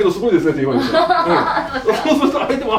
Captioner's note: hahahaha